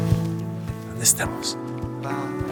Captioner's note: in spanish